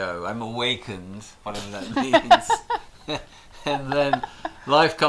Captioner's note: laughter